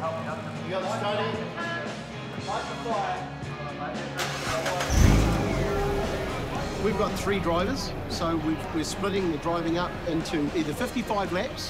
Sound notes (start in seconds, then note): 4.2 engine starts